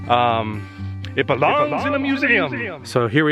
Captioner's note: echoes